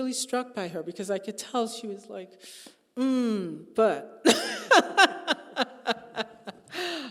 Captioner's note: laughing